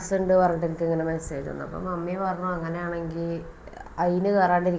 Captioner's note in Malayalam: none